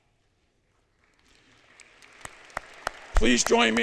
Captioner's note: applause